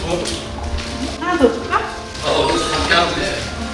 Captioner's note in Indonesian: Tertawa karena rasanya